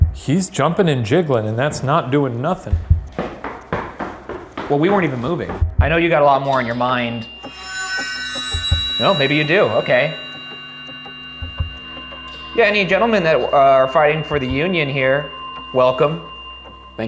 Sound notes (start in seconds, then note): 2.3 feet clomping; 7.5 suspenseful music; 10.4 suspenseful music